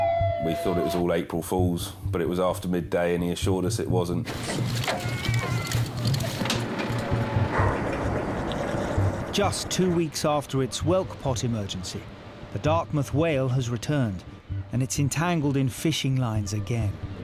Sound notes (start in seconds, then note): 4.2 gear rattling; 8.6 motor whirring